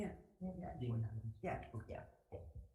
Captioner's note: assistant whispering